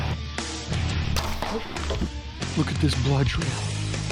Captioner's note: arrow firing